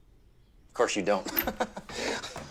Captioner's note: laughs